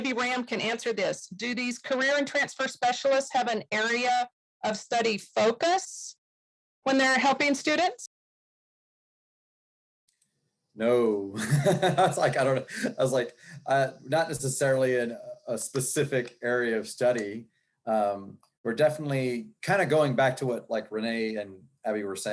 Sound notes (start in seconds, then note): 14.9 laughing